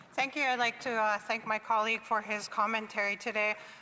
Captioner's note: speaking French